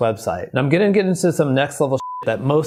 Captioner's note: beep